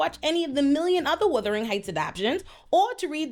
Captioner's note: none